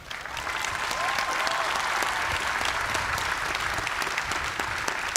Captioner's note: cheers and applause